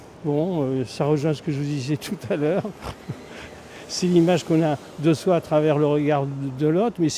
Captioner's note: laughs